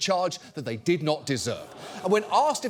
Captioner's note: audience groans